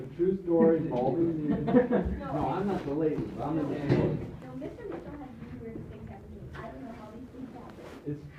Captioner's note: background chatter